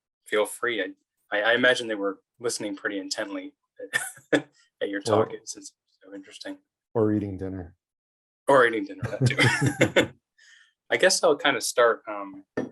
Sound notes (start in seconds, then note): 9.0 laughs